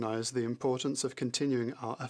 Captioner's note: speaking French